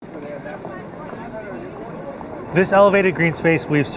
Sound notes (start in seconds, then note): 0.0 passersby chattering